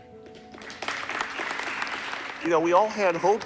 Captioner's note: audience clapping